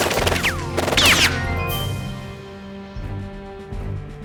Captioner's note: guns firing; dramatic music